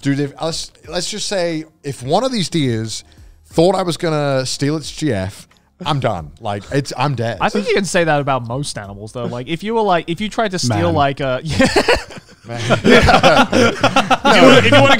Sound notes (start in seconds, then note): 11.4 laughing